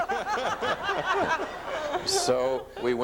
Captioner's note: audience laughs